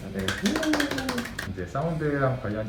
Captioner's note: applause